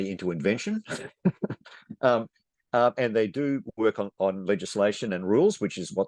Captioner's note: chuckles